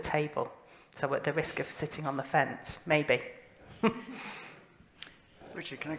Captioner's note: laughter